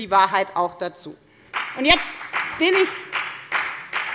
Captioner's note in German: Beifall bei der FDP